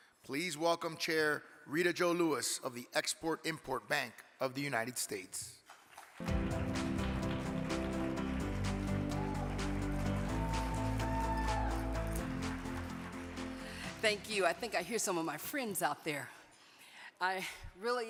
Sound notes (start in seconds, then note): 5.6 audience clapping; 9.4 audience cheering